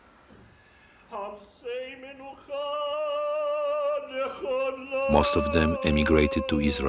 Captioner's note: chanting